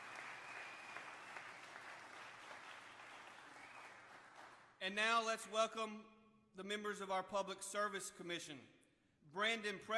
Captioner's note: applause